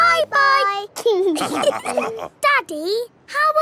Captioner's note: all laughing